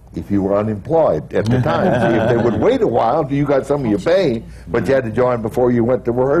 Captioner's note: laughter